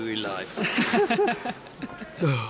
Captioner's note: woman laughing